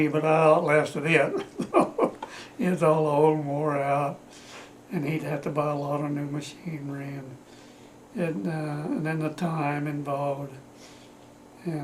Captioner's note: laughs